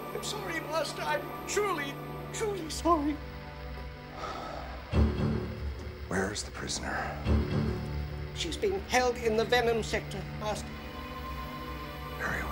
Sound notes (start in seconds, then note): 4.1 sighing